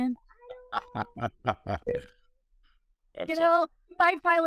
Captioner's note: laughs